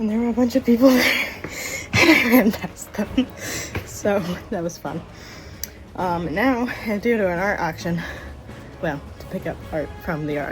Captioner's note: laugh